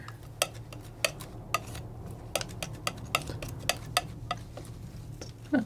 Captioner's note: tapping